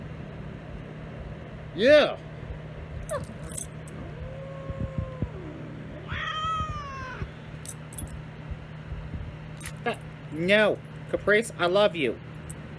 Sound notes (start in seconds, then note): 3.0 Caprice growls and howls, then meows; 3.1 Ella barks, then yelps